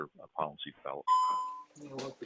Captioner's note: bell ringing